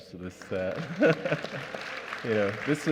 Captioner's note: applause